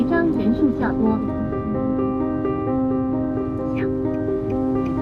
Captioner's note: speaking foreign language; contemplative piano music